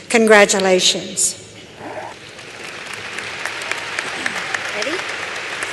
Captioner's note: applause